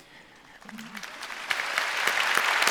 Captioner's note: applause